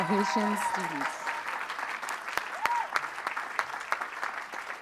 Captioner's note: applause